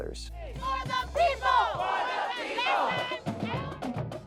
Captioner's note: crowd